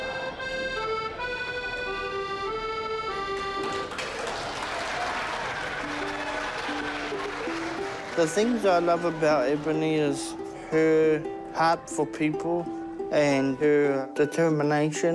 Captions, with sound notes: (CHEERING, APPLAUSE) - The things I love about Ebony is her heart for people and her determination.